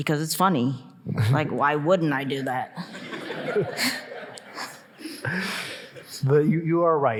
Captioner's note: audience laughing